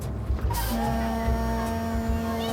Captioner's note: <i> foghorn blowing</i>